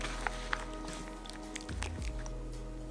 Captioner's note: sound of mixture being stirred